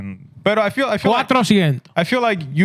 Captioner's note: speaking Spanish